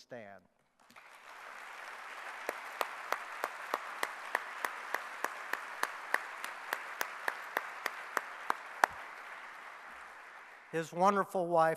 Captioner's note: clapping